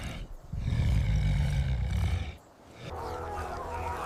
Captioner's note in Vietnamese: khịt mũi